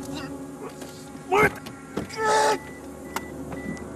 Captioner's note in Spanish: Quejidos